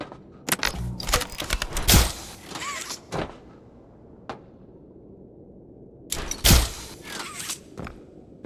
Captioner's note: gunshot